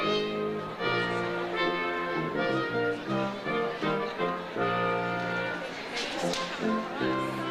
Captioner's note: slow brass music; overlapping chatter